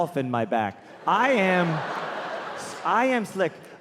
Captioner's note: laughs; audience laughing